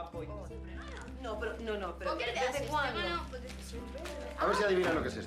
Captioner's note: berbicara bahasa spanyol